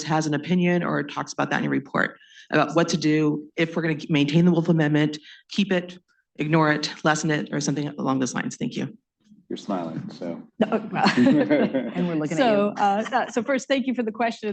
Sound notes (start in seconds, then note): 10.6 laughter